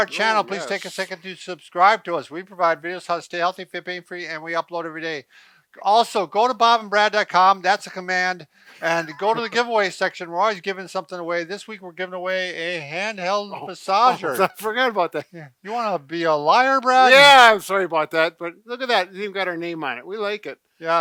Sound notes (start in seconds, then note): 8.7 chuckles